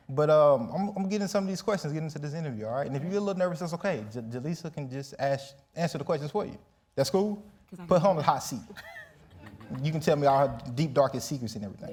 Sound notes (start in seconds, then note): 8.6 laughs